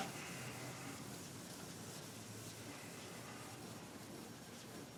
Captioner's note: board eraser hissing